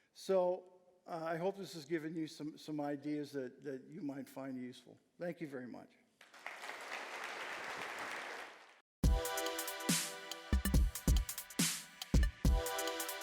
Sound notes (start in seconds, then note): 6.2 applause